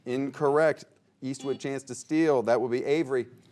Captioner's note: buzzer beeping